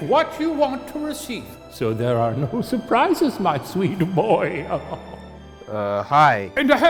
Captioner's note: laughing